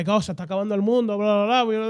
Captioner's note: speaking In Foreign Language